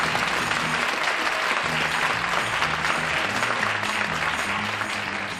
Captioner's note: applause